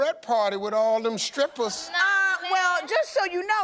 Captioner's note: audience laughing